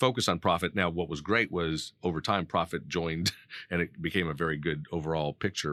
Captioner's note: laughing